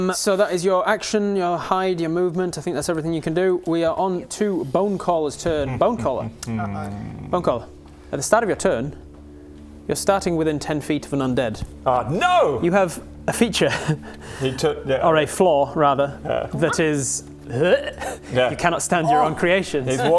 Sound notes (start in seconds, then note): 17.5 disgusted gag